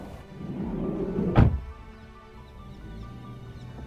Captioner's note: door thudding; somber music